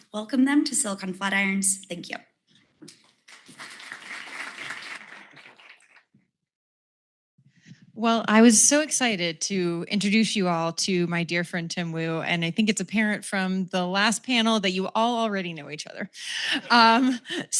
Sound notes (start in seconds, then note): 3.2 applause